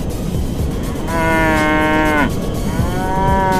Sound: the cow is mooing

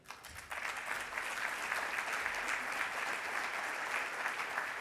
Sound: audience applauds

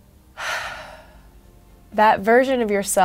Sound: sighs

